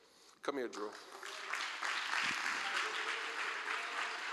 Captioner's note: applause